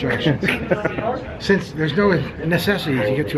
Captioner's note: laughing